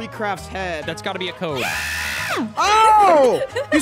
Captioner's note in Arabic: تصرخ